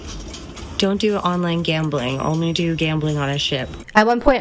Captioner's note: hoots